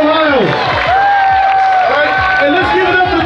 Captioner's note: audience cheering and applauding